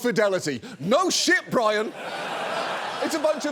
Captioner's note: studio audience laughs